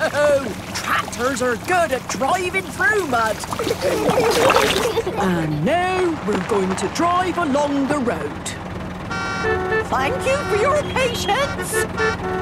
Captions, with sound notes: - No! Tractors are good at driving through mud. (giggling) And now we're going to drive along the road. (cars honking) Thank you for your patience!